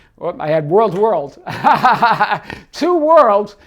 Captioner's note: laughing